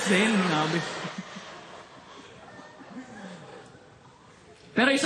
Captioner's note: chuckling